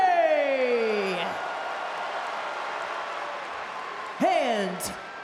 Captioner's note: crowd cheers